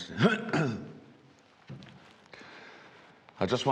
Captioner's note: throat clearing